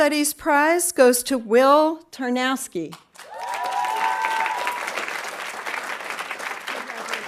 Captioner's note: audience applauding